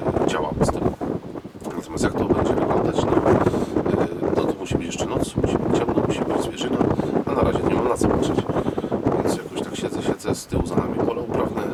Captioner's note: wind sound